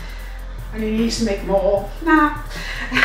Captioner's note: laughs